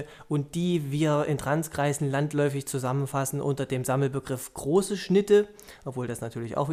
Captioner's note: German